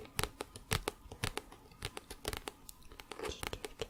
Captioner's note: tapping on book